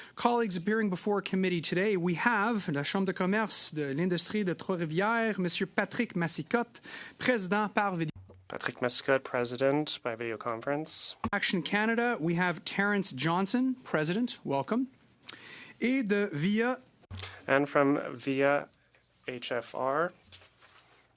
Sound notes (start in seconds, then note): 8.4 speaking French